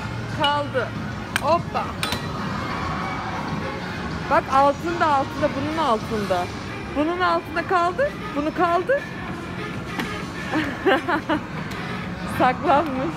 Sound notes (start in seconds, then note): 10.5 laughter